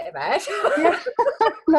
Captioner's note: laughing